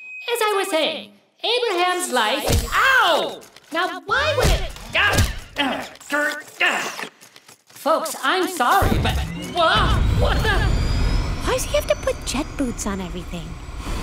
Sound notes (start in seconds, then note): 2.5 thud; 5.0 thud; 6.1 Leo growls